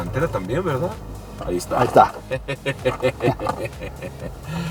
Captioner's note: laughter